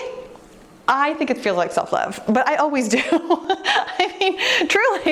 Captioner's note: laughs